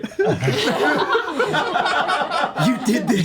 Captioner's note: laughter